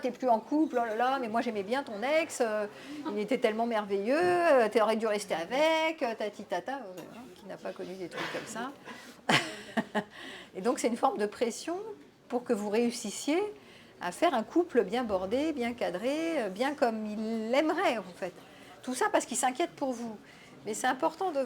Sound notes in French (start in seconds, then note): 9.2 rires